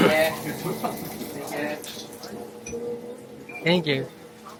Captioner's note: laugh